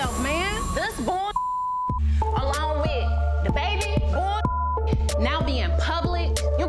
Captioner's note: beep